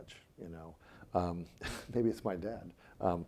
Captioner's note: chuckling